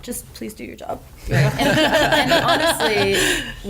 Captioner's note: laughter